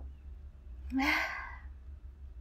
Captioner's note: sigh